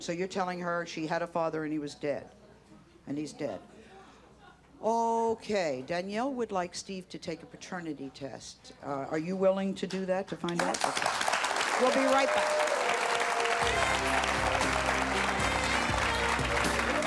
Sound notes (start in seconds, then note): 10.4 applause; 13.6 captivating music